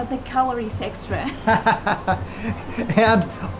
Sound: laughing

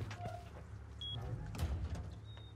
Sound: door creaks; door slams

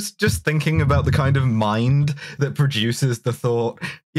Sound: none

